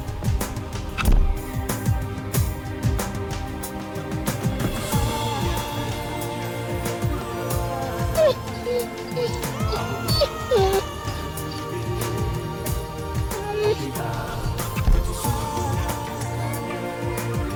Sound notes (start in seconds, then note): 7.6 dog whines; 14.2 melancholy music